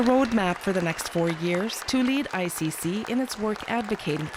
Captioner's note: applause